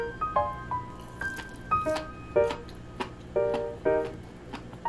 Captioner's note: sounds of eating